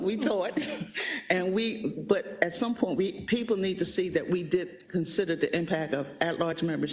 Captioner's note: laugh